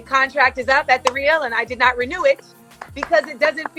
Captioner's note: clapping